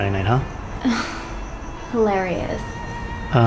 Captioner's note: scoffs